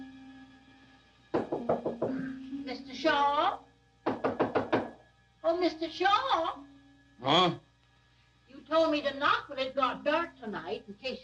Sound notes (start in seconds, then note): 4.0 door knocking